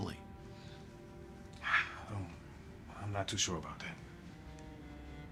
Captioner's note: sighs